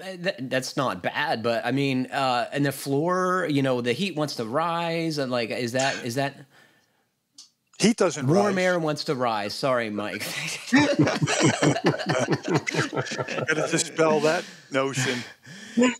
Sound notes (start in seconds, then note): 10.6 laughter